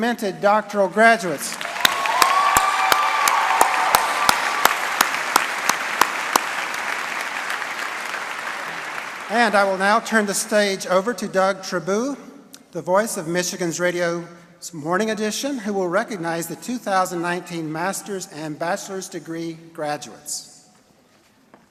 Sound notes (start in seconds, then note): 7.4 cheering; 7.7 applause